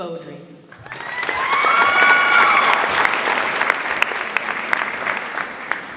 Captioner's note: audience applauds and cheers